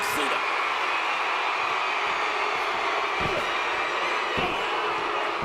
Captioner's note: audience cheering